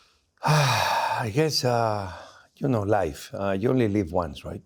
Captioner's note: sighs